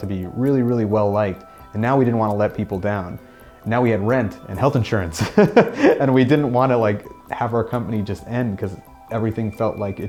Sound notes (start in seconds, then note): 5.2 laughs